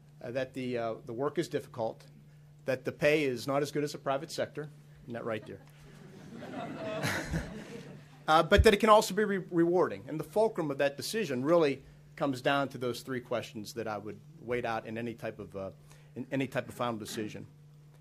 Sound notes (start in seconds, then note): 5.3 audience laughs